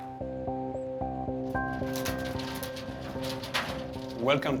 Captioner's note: bat flapping